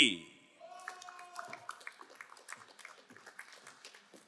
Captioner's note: crowd applauding